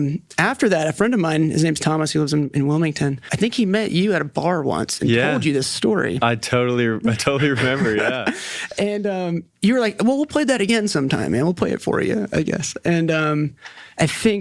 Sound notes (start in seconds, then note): 9.2 laughs